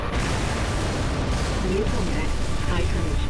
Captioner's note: explosion